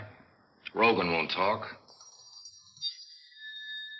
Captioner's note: bell rings